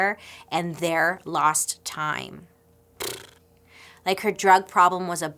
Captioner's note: blows raspberry